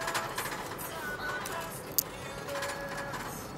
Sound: wheelchair hoist rattles

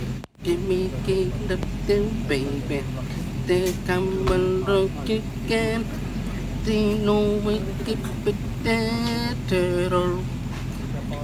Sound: murmuring voices, birds singing

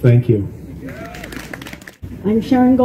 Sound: applause

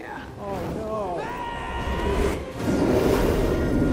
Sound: screaming

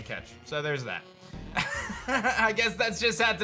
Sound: chuckles

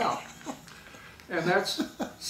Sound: laughing

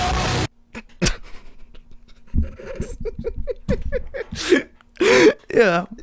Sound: starts laughing

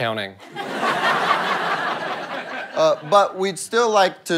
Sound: audience laughter

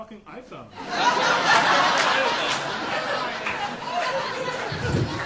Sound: audience laughing

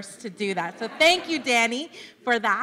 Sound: laughter

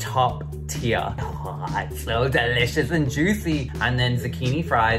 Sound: moans

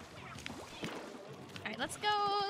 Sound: splashing

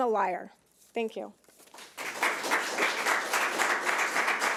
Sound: audience clapping

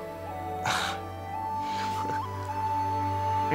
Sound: chuckles

